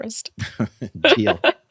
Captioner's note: chuckle